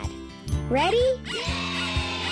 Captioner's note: pig squeaking